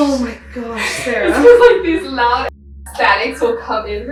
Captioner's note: beep